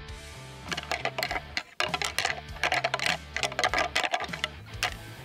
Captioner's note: antlers rattling